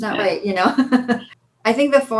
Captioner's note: laughs